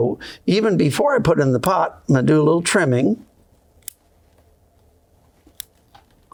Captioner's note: scissors snipping